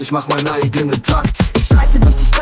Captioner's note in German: Record scratch